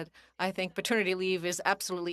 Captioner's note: speaking French